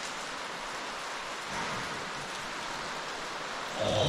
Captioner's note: crash